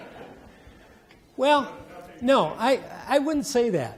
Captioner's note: audience laughing